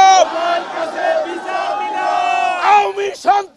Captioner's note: crowd repeats